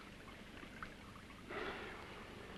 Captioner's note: liquids bubbling